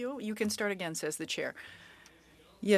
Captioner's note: speaking in French